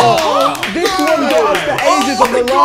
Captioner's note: clapping and yelling